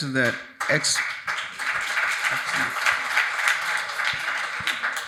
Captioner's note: audience applauding